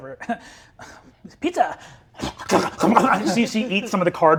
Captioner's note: gurgling